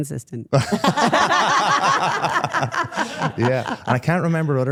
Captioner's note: everyone laughing